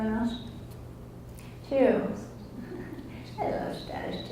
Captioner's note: laughs